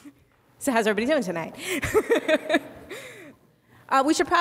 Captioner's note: laughing; laughs